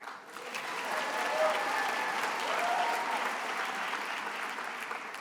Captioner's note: attendees applauding and cheering